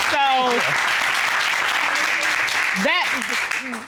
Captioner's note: applause